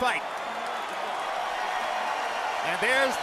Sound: cheers and applause

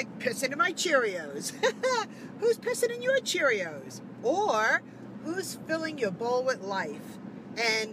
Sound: laughing

